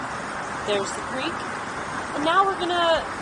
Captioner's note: roaring water